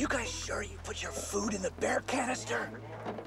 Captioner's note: whispers